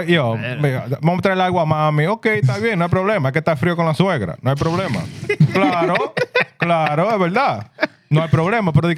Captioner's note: speaking Spanish